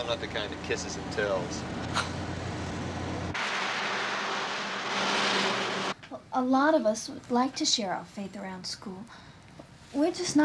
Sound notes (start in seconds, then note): 2.7 boy scoffs